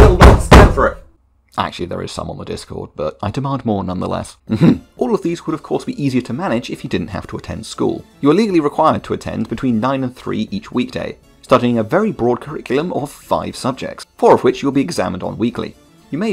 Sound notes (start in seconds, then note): 0.0 slams desk; 4.3 ahem